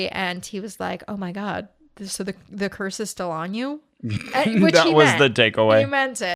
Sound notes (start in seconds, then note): 4.0 laughs